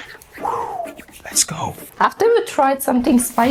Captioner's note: whispering